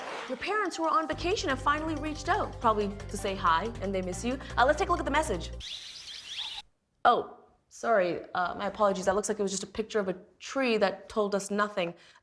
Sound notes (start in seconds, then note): 5.6 birds chirping